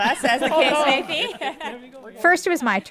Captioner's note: laughs